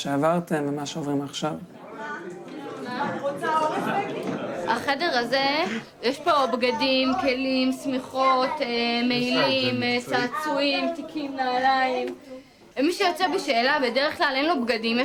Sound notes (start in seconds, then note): 2.6 people chattering in foreign language; 4.8 speaking in foreign language